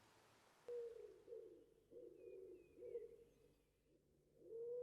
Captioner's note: owl hooting